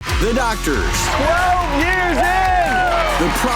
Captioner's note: crowd clapping and cheering